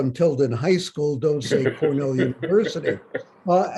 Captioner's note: Bob laughs